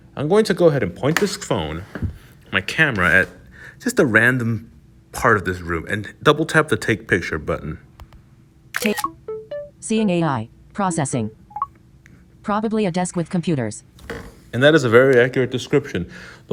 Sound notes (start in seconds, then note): 8.7 click, jingle